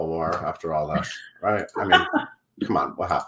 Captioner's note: laughs